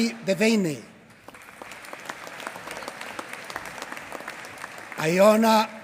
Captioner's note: applause